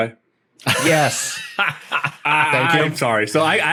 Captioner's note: laughs